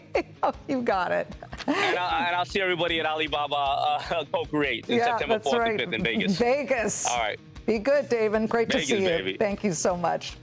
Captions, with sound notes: [LAUGHTER] DON’T RUN MY MORE ROBERT DON’T RUN MY MORE ROBERT COMMERCIALS RIGHT BEFORE I GET COMMERCIALS RIGHT BEFORE I GET ON, IT’S MY TIME -- ON, IT’S MY TIME -- [LAUGHTER] [LAUGHTER] AND I’LL SEE EVERYBODY AT AND I’LL SEE EVERYBODY AT ALIBABA SEPTEMBERTH AND 5TH IN ALIBABA SEPTEMBERTH AND 5TH IN VEGAS.